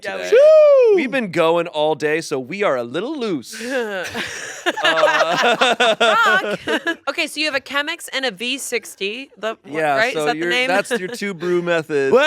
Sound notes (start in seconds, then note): 4.0 laughs; 4.1 everyone laughing